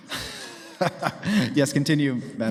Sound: laughing

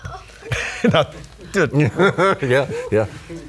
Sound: laughing

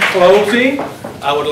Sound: applause

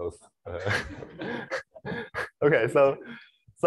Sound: laughter

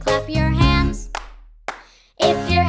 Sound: hand Clapping Twice

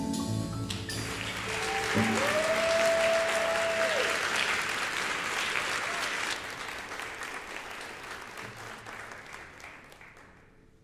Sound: audience applause

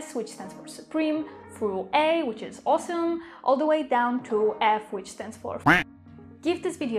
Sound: quack

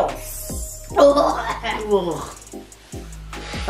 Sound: gagging

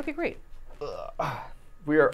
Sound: grunting

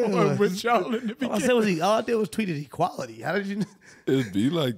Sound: chuckles

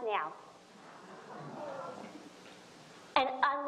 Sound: audience exclaiming

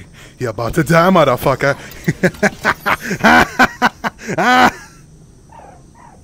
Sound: le evil laugh

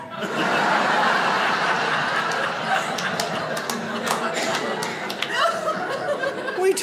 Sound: audience laughs

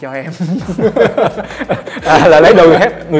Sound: laugh

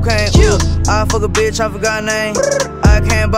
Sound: brr

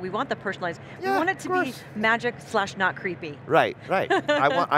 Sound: laughs

